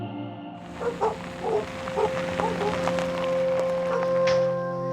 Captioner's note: dogs barking; pensive music